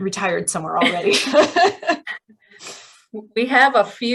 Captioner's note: laughter